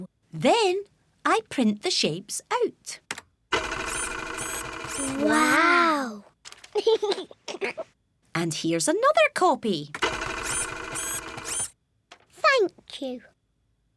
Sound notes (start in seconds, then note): 3.5 printer whirring; 6.7 giggles; 10.0 printer whirring